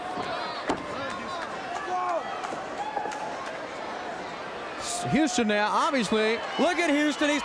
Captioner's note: crowd chatter